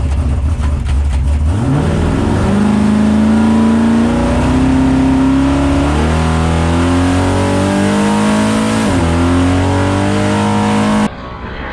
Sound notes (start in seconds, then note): 1.3 race car engine motor revving